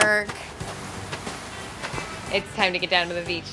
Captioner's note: soothing waves